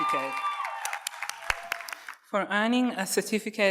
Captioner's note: audience cheers and applauds